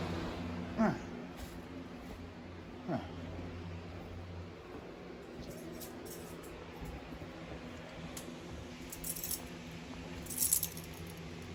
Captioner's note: grunts slightly as she walks